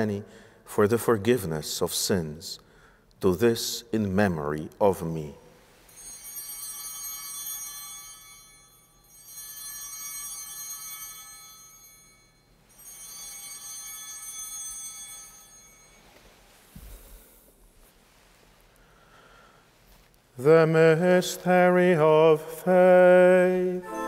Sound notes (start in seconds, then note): 5.8 chimes ringing